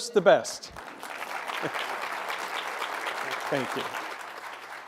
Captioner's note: applause